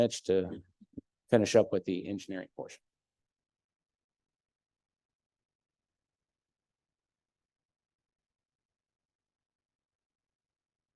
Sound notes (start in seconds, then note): 4.9 no speech